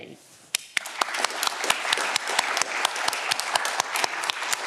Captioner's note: audience clapping